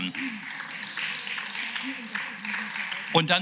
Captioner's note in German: Beifall